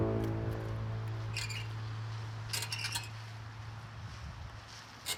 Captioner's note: key screeching